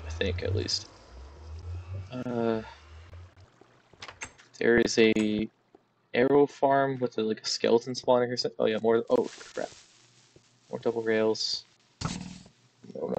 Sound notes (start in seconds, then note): 9.1 creeper hisses